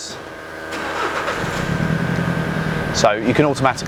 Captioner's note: engine humming